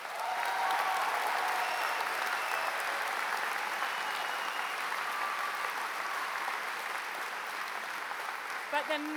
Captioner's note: applause